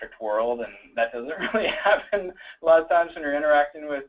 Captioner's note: laughs